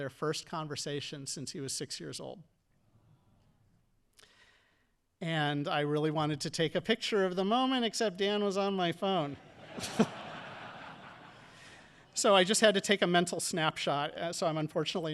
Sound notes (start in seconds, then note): 9.4 audience laughing